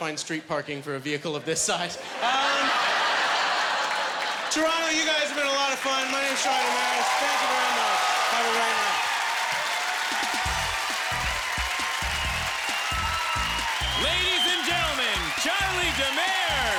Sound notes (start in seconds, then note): 9.9 cheering and applause